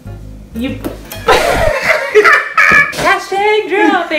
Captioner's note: laughs